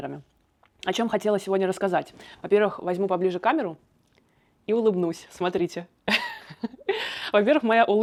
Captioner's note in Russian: смех